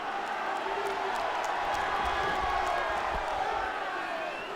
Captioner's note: audience cheering